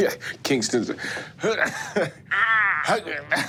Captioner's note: laughs